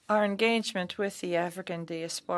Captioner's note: speaking French